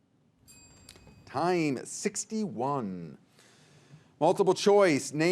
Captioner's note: timer rings